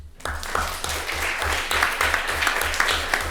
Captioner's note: applauding